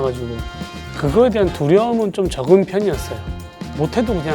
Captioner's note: speaking in foreign language